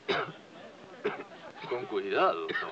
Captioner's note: coughs